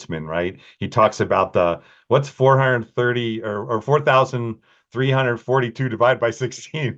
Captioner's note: laughing